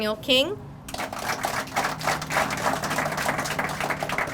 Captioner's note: crowd applauding